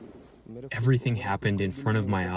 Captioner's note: through translator